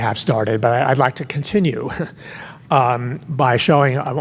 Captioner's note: laughs